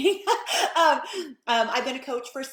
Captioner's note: laughing